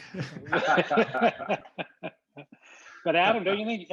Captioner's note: group laughing